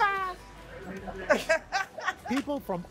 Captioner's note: laughter